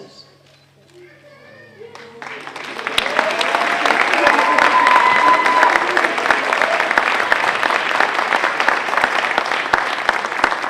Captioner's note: applause